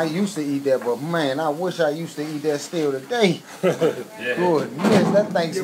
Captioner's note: chuckles